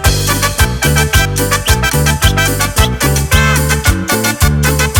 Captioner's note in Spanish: silbidos